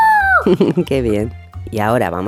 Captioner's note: laugh